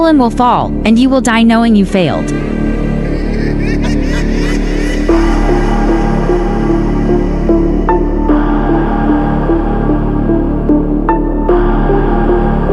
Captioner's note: sneering